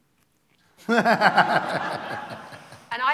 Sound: laughter

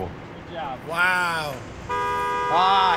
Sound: horn honks

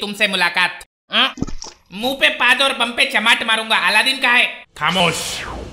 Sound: sip sound

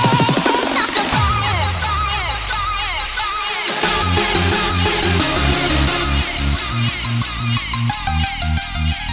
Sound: echo

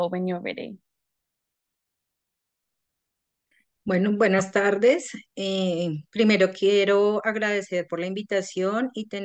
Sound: speaking in Spanish

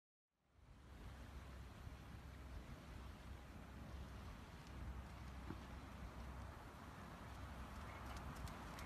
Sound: bird Walks

